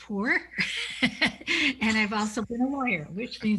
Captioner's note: laughs